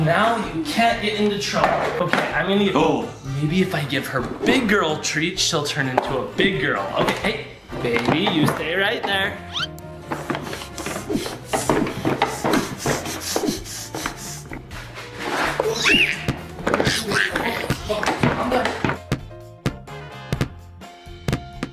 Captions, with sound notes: - Now you can't get into trouble, okay? Oh, maybe if I give her big girl treat, she'll turn into a big girl, okay. Hey baby, you stay right there. (breathing) (baby screeching) Calm down. (playful music)